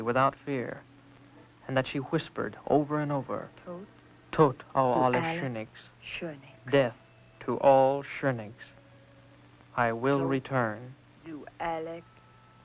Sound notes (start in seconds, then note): 4.1 non-english; 10.6 chanting in german